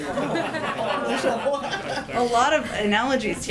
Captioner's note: laughter